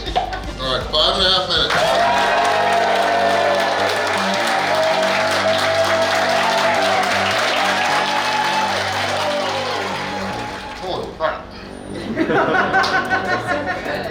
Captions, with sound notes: Alright, 5 and a half minutes. [Cheering & Clapping] Holy crap!! [Hahaha]